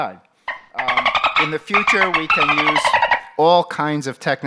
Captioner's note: dolphin noise